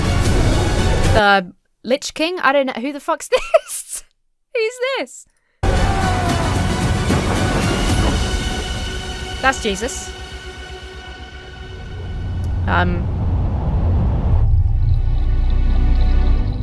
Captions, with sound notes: The Lich King. I don't know. Who the fuck's this? Who's this? (man roaring) That's Jesus. Um... (mournful music)